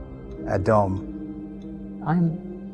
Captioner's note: David speaking in foreign language